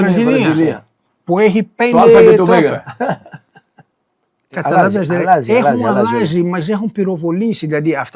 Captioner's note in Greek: γέλια